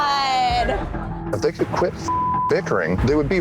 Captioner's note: beep